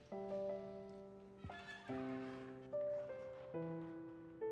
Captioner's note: door squeaking